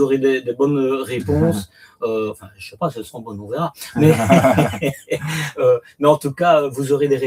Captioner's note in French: rires